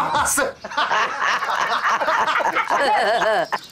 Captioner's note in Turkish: Gülme sesi